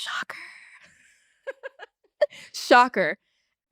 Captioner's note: laughs